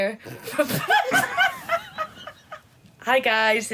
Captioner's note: laughter